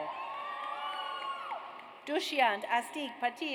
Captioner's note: audience cheers